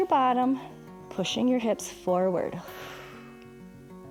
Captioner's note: exhales